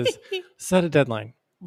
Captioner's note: chuckles